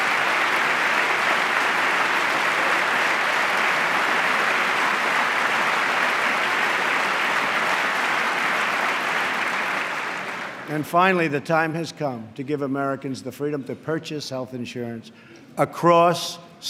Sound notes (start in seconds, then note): 3.3 applause